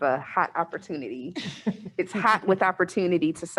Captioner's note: laughs